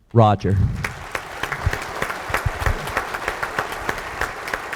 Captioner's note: audience applauds